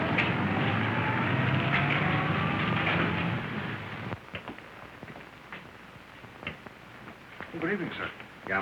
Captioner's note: car engine